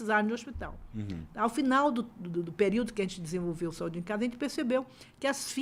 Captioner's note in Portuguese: limpando a garganta